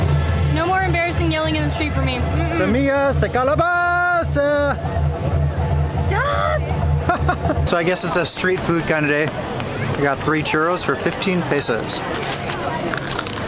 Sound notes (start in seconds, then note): 7.0 laughter